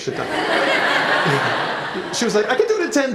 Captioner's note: laughter